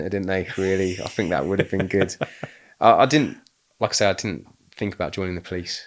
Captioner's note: laughing